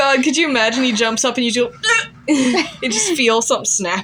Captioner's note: chuckle